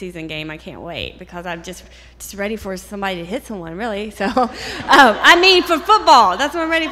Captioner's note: laughter